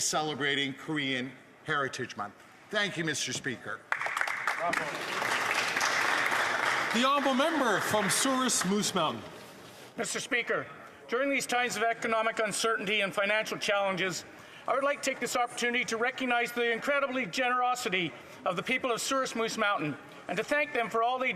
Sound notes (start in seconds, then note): 10.1 some Applause